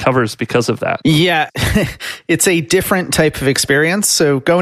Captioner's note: chuckles